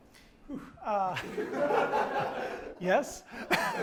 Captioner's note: laughing